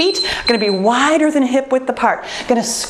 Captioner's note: timer beeps